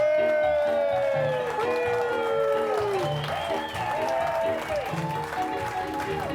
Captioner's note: group cheering; group clapping